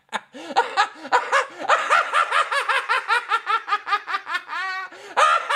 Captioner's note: gasping breaths between laughs